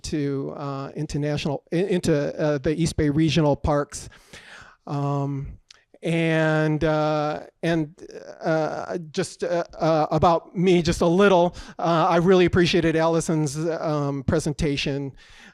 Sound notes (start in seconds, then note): none